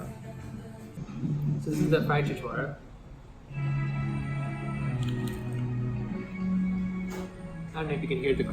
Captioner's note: crunch